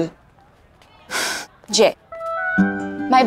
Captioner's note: Gasps